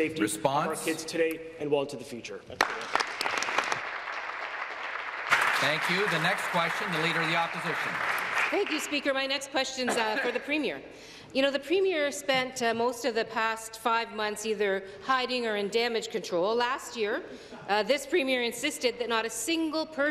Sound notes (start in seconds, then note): 7.6 applause